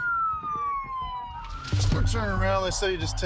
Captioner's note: sirens wailing